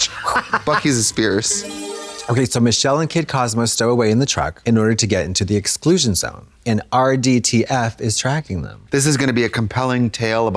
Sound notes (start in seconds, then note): 0.0 Katya chortles; 1.4 bright chime